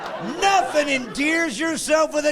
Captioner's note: laughing; voiceover